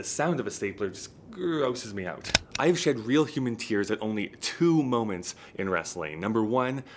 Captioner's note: stapler sound effects